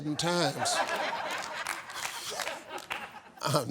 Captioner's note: laughing